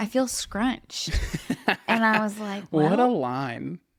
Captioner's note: laughs